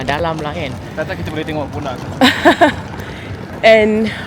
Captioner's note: laugh